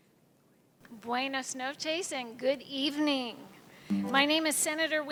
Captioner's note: non-english speech